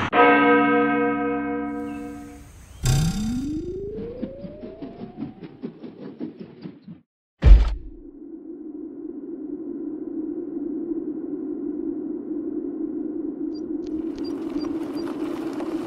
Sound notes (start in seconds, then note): 0.1 church bell dong; 2.8 trampoline sproing